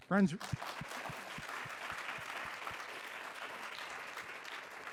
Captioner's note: audience applauding